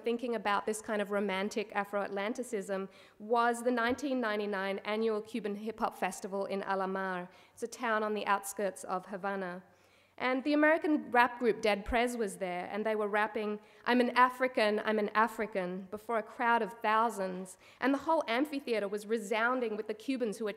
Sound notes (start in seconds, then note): none